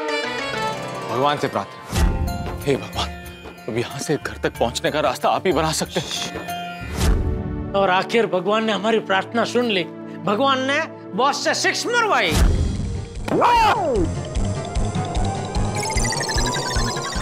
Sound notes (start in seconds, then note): 13.2 comical music plays; 13.3 screams